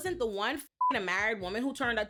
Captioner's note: beep